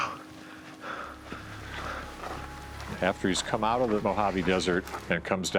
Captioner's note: chuckling; footsteps